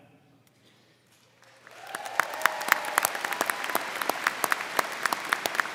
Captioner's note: crowd clapping